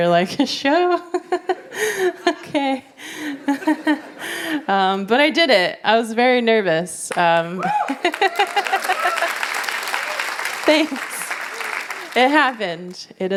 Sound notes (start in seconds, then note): 7.6 applause; 7.8 laughs